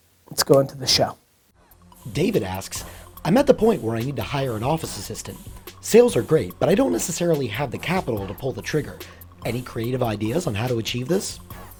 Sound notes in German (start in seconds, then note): 2.1 Voice-over